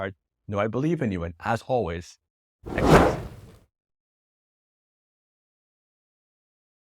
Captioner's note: letters whooshing